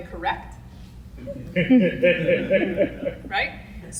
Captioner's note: audience laughs